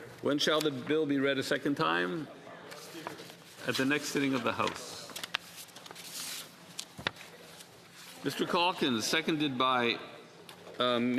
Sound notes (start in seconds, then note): 1.8 speaking French